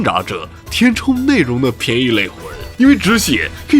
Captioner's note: scrambling